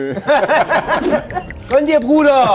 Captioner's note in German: Lachen